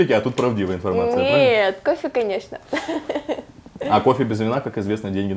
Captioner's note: laughs